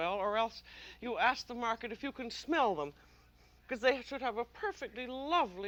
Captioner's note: sniffs